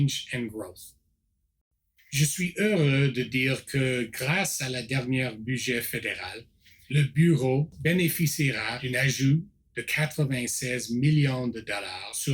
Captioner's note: repeats in French